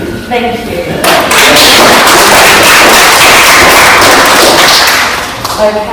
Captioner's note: claps